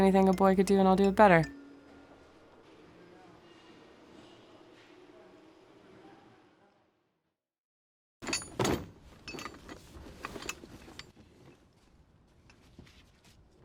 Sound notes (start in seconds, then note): 8.2 tools rattling